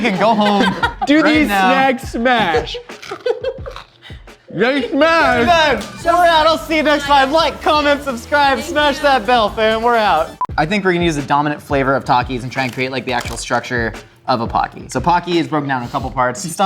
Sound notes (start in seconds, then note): 2.9 food crunching